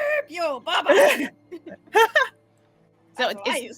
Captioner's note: laughing